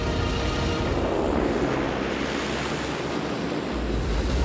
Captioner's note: airplane taking off